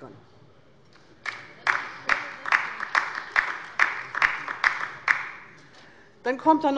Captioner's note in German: Beifall bei der LINKEN